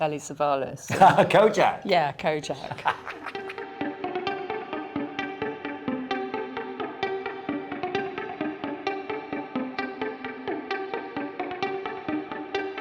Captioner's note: laughing